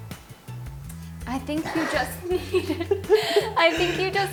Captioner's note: laughs